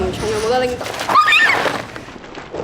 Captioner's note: scream